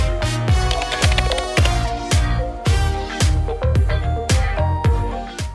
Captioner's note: upbeat music; keyboard typing